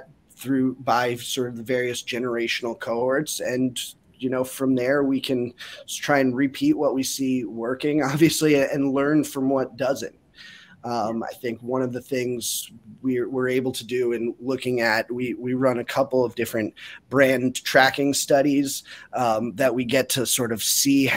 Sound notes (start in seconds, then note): 8.4 chuckles